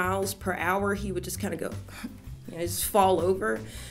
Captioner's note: sigh